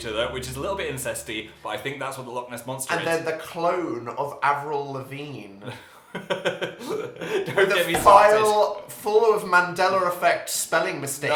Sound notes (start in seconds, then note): 6.1 giggles sheepishly